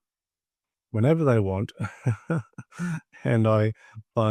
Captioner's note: laughs